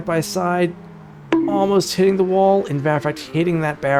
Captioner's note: bonk